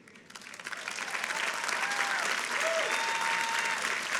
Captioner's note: people clapping